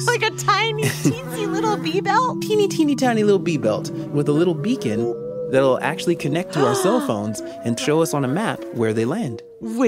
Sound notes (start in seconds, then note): 0.0 laughing out loud; 2.3 A bee buzzes